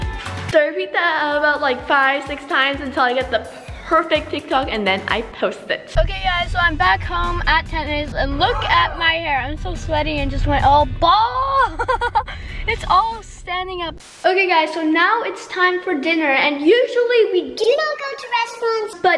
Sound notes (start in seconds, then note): 11.4 laughs; 12.7 static